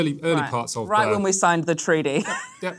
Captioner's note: laughs